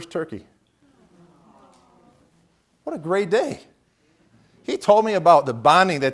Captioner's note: awwww